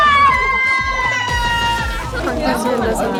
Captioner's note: crying